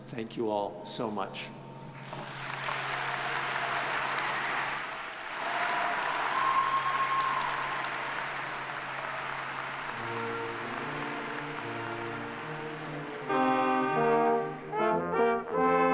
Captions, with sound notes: Thank you all so much. (audience applauding) (audience cheering) (stately music)